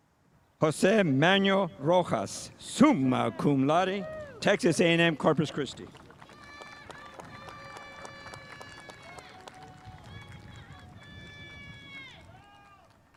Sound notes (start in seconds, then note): 4.8 spectators applauding